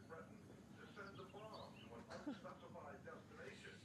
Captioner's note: laughing